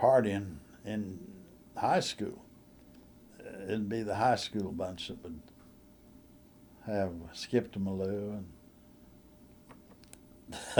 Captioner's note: laughter